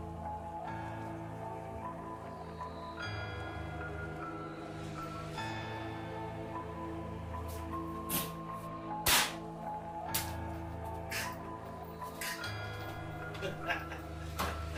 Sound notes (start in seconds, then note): 0.1 suspenseful music; 9.1 book thuds; 11.6 camera man laughs